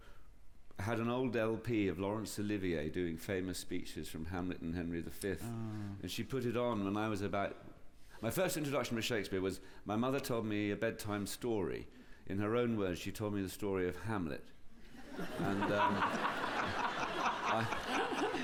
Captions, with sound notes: had an old LP of Laurence Olivier doing famous speeches from Hamlet and Henry V. And she put it on when I was about... My first introduction with Shakespeare was my mother told me a bedtime story. In her own words, she told me the story of Hamlet. And, um... (LAUGHTER)